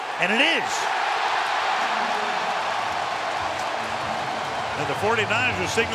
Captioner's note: cheering